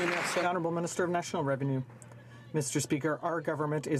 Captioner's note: some Applause